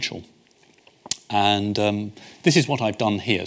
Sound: smacks lips

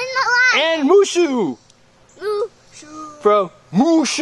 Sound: voiceover; voiceover

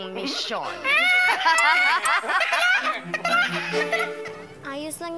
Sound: all three cackling

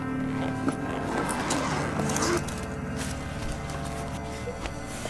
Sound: bag unzipping

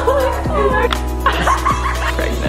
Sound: laughing

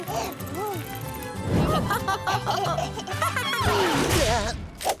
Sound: babbling; laughing

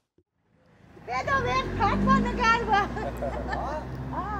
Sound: speaking Armenian

